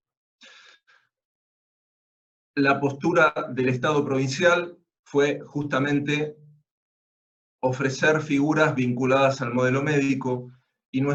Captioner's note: Spanish